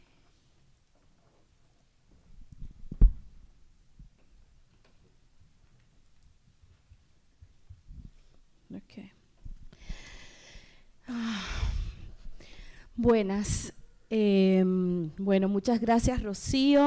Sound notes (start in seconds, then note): 11.0 sighs; 12.9 speaking spanish